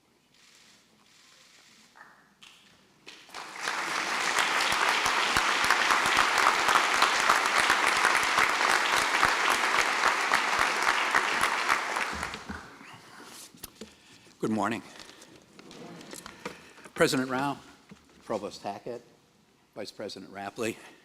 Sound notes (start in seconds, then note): 3.0 applause